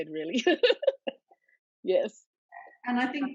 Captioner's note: laughs